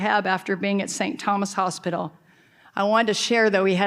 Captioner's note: none